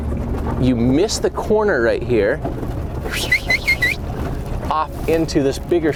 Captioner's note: swirling sound